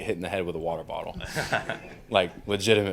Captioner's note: crowd laughs